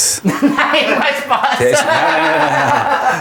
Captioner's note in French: Rires